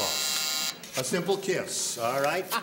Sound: buzzer; laughing

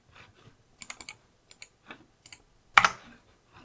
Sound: blank Audio

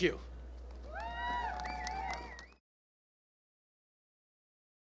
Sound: applause

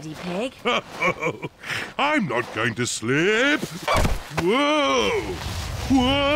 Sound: snorts; chuckles

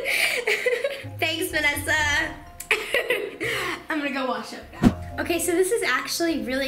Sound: laughs

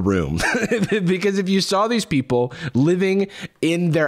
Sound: laughs

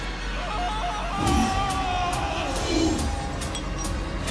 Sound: screams

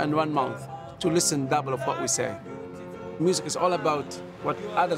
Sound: waves lapping

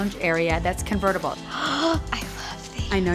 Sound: gasp

